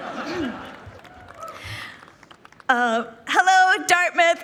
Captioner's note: people laughing